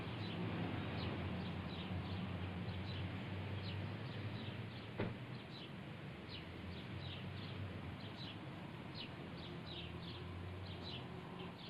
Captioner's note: birds chirping